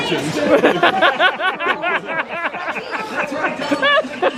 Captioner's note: laughing